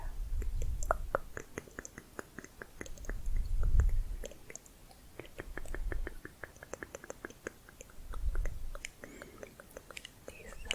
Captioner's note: tongue clicking